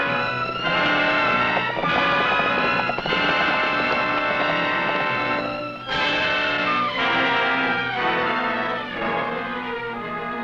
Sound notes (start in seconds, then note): 2.2 horse hooves pattering; 7.8 tense music